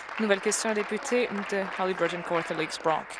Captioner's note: applause